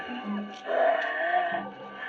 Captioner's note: choking